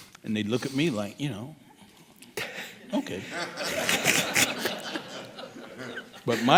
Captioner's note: laughing